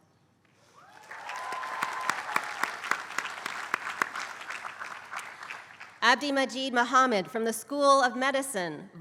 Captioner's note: applause